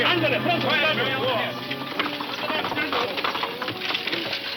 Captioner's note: horse hooves clomping